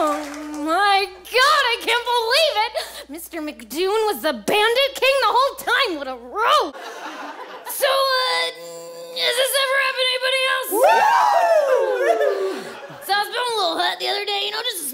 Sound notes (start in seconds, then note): 10.5 the dumbasses cheer